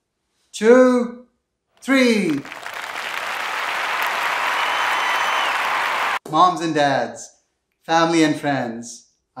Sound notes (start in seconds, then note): 2.2 clapping